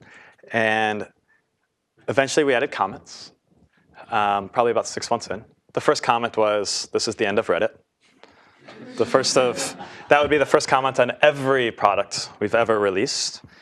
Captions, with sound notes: And eventually we added comments, probably about six months in. The first comment was, this is the end of Reddit. >> [LAUGH] >> The first of, that would be the first comment on every product we've ever released.